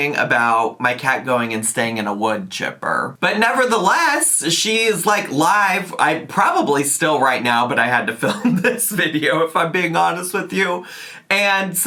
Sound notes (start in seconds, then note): 8.6 laughs